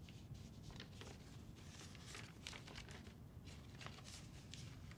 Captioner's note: paper rustles